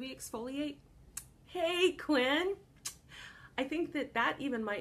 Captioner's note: kiss